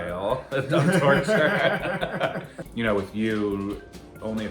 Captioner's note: both chuckling